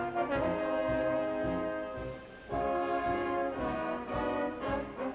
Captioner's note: none